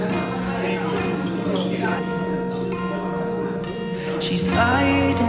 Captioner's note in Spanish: parloteo fuerte en el café